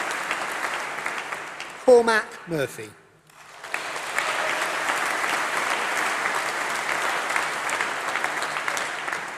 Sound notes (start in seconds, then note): 3.3 applause